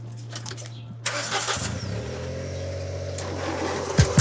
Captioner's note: engine revs